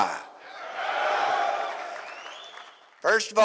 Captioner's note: audience Cheers